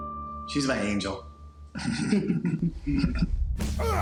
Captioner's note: laughs